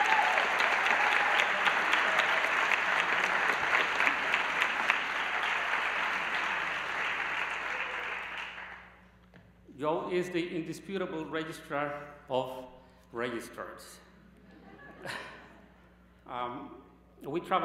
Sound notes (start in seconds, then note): 8.9 applause